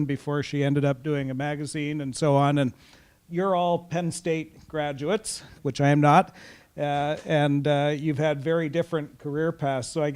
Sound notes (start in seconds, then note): none